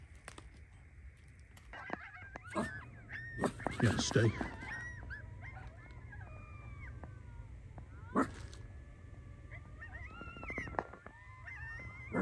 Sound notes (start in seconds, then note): 1.8 dog barks; 2.9 coyotes yipping and howling